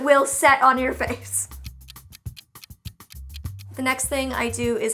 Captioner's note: clock ticking